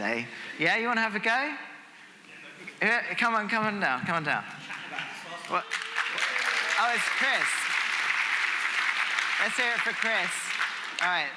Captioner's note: applause